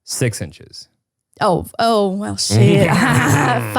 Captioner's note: laughs